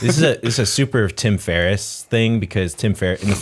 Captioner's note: laughter